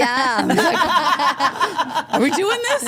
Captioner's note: Steph laughs